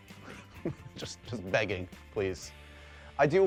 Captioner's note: chuckles